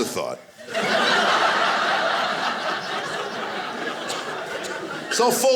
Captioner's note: audience laughing